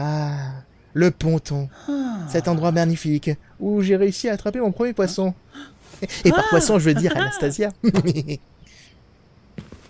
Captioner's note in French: Rires